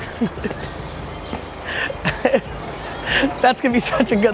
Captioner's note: laughing